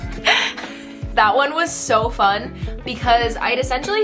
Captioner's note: giggles